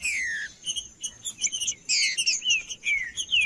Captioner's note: trinca ferro cantando